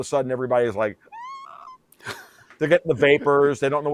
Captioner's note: imitates screaming